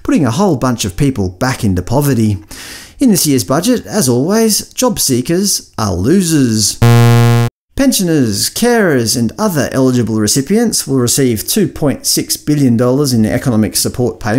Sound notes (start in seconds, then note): 6.8 bzzz